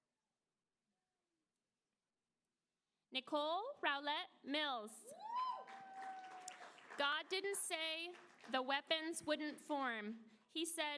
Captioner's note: applause